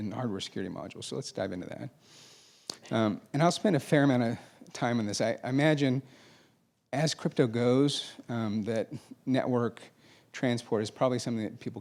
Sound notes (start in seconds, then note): none